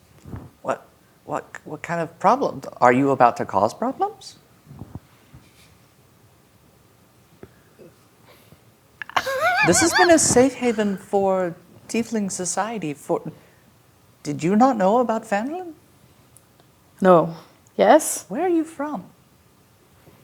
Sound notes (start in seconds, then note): 9.1 laughing